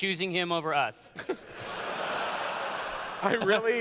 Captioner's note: laughter